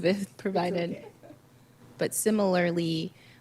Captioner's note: laughs